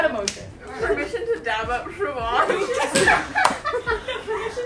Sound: laughter

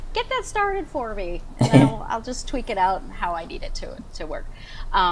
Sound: both laugh

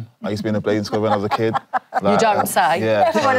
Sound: laughter

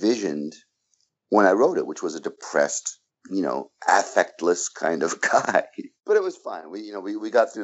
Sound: laughs

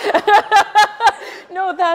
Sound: laughs

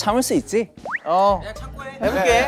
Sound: hesitant

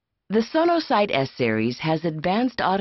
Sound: voiceover

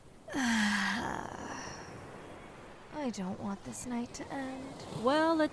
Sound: content sigh

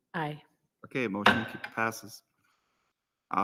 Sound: gavel raps

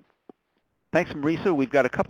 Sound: voiceover

